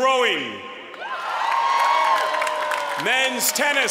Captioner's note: applause